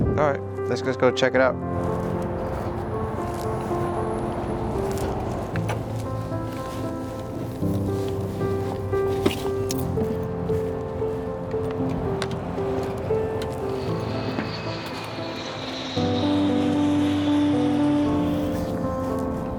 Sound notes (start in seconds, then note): 1.9 gentle music continues; 1.9 traffic droning; 14.1 aircraft droning; 14.1 gentle music continues; 18.6 equipment rattling; 18.6 grass rustling